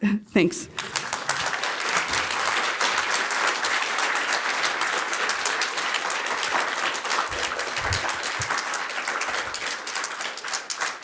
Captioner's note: applause